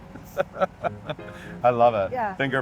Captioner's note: laughing